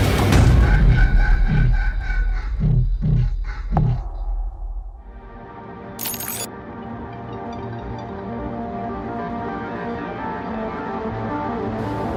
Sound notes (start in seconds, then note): 5.2 glitch beeps; 5.9 soft music; 8.2 soft pulsating techno music